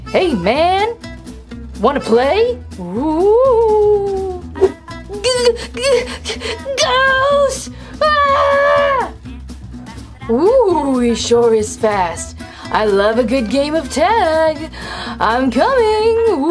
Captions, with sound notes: Hey man, wanna play? - G-g-g-ghost! (Catboy screams) - He sure is fast, I love a good game of tag. I'm coming!